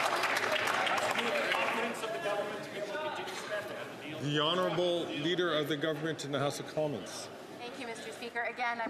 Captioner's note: applause